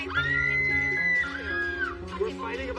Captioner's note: screams